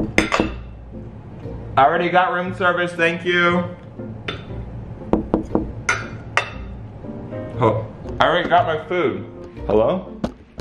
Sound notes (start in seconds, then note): 0.0 knocking; 5.1 knocking